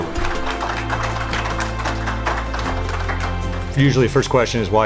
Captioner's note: crowd applauding